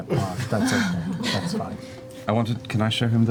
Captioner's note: laughter